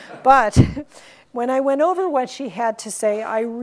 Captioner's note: laughs